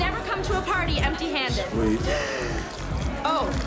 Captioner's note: urine splattering